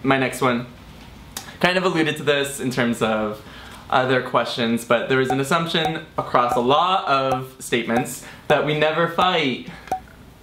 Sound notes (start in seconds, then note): none